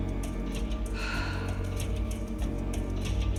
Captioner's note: sighs